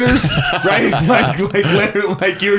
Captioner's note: laughs